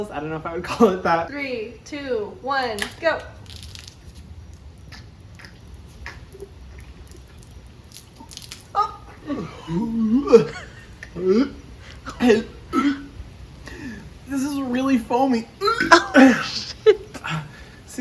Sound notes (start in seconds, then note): 2.8 alcohol splashes; 8.7 Hyram gagging; 15.6 gagging; 15.7 girl laughs